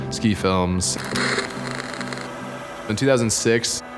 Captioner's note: camera static